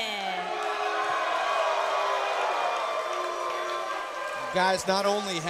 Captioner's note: crowd cheering